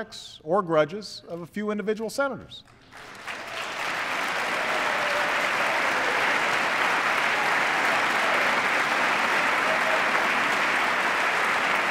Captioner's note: applause